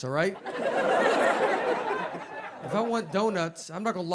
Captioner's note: audience laughs